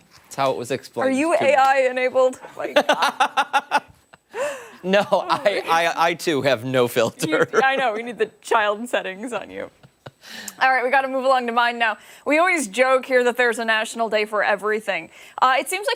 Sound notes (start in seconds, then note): 7.1 laughter